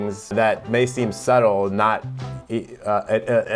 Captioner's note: blabbering